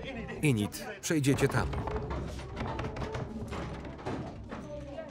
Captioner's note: banging on door